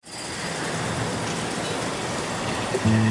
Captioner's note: sound: Traffic